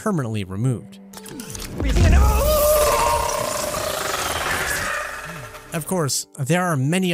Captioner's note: Variant screams